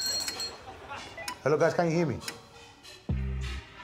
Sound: bell ringing

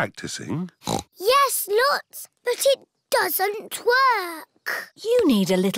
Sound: snorts

